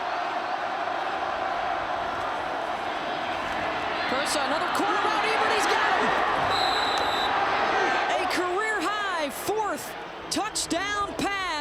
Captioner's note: applause